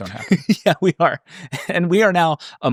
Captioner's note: laughing